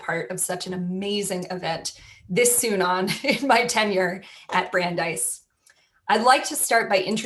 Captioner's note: laughter